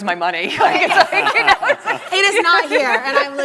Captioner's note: people laughing hysterically